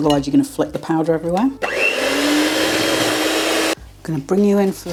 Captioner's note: cake mixer whirring